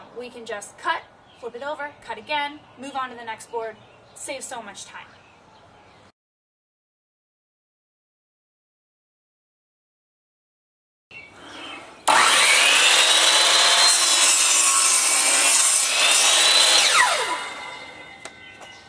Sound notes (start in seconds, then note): 11.4 saw cutting